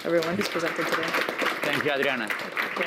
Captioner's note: applause